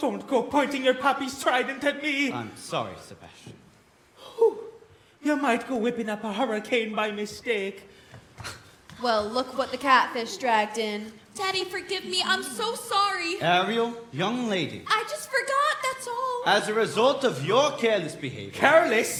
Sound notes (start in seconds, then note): none